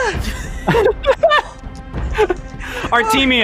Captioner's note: laughing